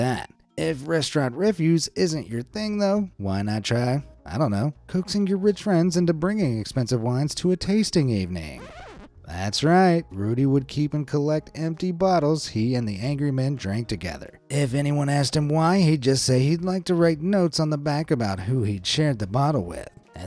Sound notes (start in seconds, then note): 8.5 record scratching